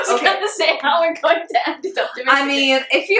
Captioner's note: laughs